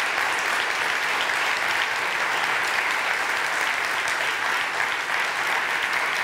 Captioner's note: applause